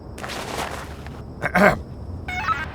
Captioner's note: Houston clears his throat